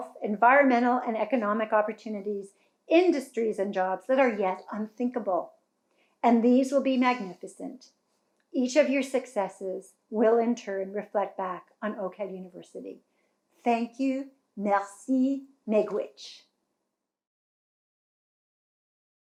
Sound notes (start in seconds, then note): 14.0 speaking in foreign language